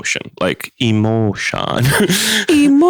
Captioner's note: laughs